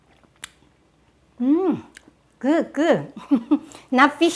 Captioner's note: chuckles